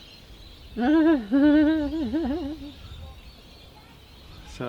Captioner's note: laughs